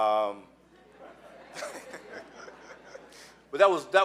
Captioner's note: laughing